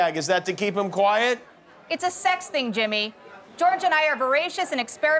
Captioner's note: none